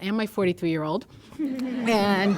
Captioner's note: laughter